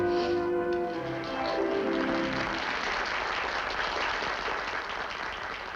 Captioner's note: applause